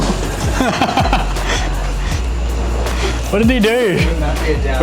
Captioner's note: laughing